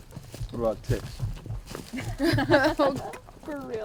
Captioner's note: riendo